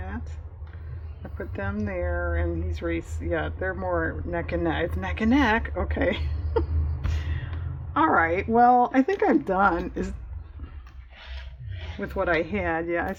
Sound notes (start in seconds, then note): 4.8 laughs